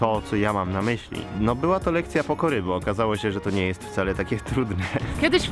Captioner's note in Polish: śmiech